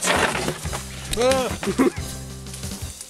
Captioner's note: shouts